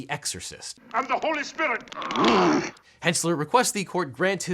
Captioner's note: girl growls